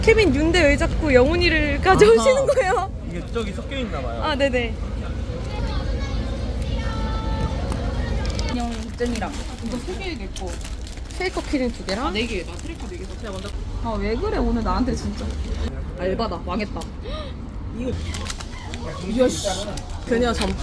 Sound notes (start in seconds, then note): 17.7 gasps